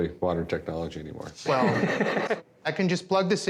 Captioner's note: laughs